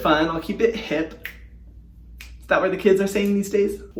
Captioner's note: snapping fingers